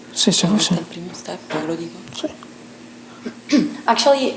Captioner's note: speaking italian